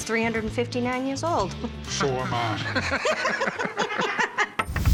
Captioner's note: laughter